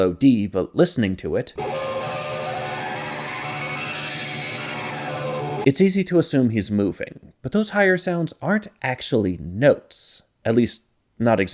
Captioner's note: bang